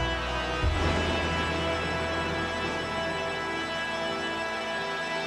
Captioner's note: lightning crashing